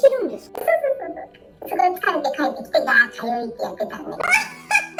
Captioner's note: laughs